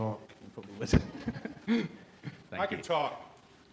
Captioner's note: laughs